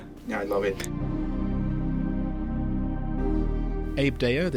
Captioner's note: voiceover